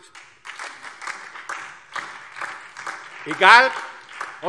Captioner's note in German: Beifall DIE LINKE und vereinzelt SPD